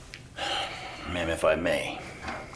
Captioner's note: sighs